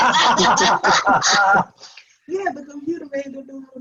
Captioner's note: laughing